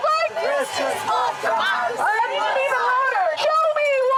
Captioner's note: crowd